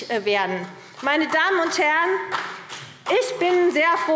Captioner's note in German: Vereinzelter Beifall CDU und BÜNDNIS 90/DIE GRÜNEN